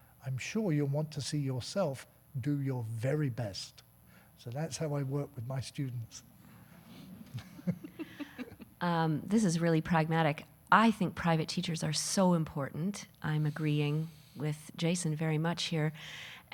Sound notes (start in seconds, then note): 7.2 laughing; 7.3 audience laughing